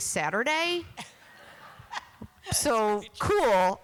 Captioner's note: laughter